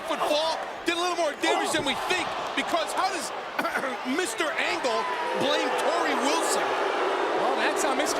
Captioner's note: cough